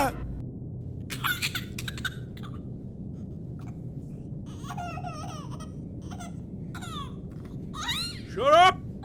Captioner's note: high pitch baby laughter